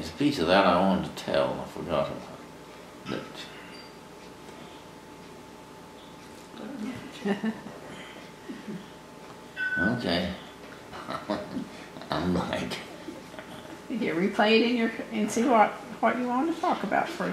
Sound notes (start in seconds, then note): 10.9 laughs